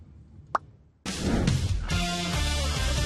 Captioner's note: tongue pop